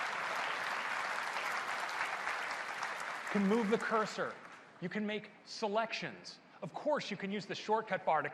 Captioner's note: applause